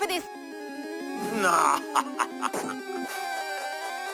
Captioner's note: laughs